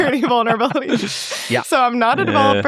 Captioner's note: everyone laughs